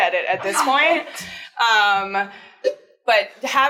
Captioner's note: students laugh